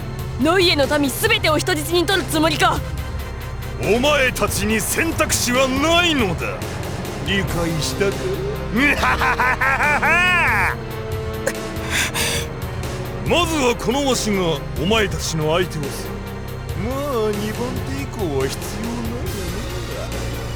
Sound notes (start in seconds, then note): 8.6 laugh